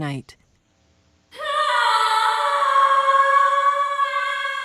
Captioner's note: wails